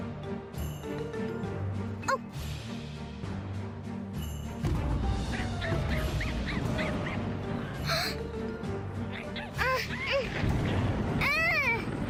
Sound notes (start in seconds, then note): 4.5 roaring Thunder; 7.9 gasp